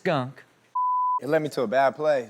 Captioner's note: beep